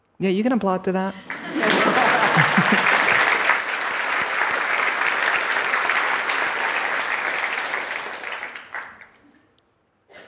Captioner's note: applause and Laughter